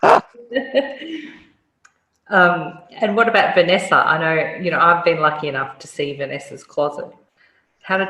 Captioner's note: laugh